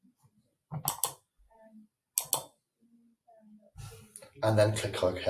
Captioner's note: switch clicking